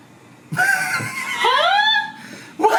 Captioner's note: laughs